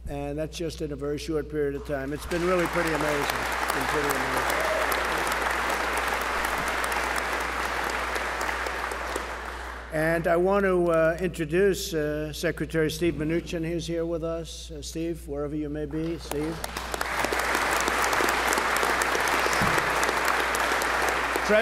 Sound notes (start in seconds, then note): 4.9 applause; 16.2 applause